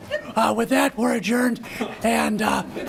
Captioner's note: laughter